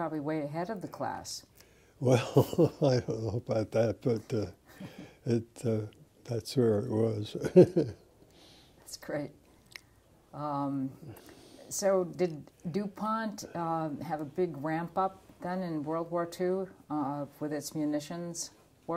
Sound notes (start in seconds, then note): 7.3 laugh